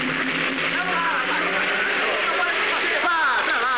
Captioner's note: chattering, Shouting